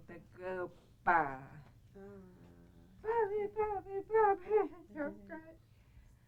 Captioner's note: speaking in native tongue